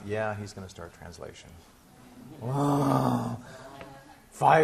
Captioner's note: class grumbling